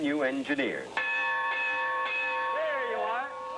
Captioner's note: rings bell